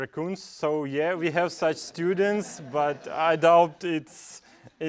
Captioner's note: laugh